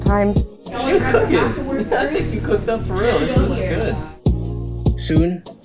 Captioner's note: laughs